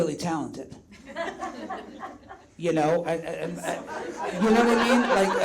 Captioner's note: audience laughs